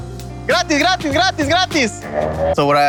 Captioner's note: speaking in Spanish